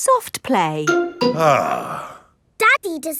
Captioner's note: sighs